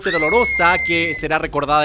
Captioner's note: scream